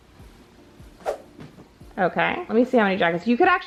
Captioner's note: air whooshing